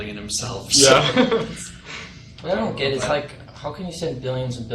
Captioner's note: chuckles